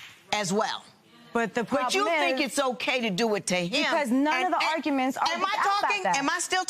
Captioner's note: clapping